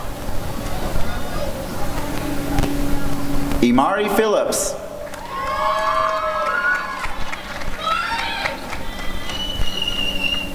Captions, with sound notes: Ymari Phillips [applause and cheering]